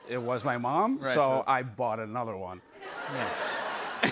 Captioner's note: laughter